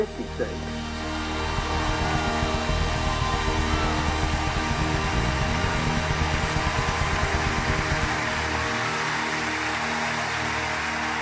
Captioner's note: audience applause